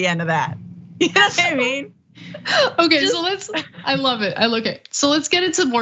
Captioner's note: laugh